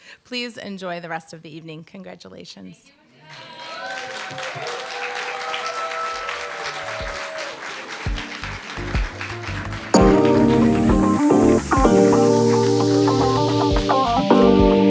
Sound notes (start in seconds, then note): 3.3 applause, cheer